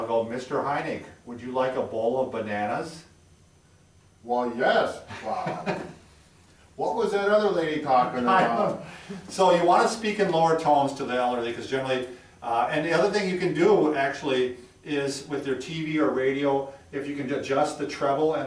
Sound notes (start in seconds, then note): 5.0 chuckles